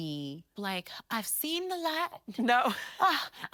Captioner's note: chuckles